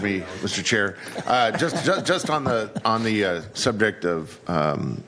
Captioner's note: laughter